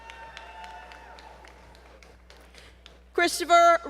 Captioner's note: applause